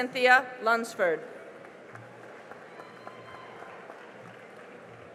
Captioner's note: cheering and applause